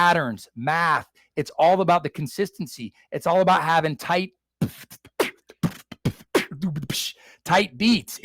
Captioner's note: beat boxing